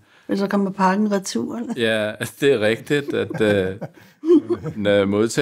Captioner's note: laughs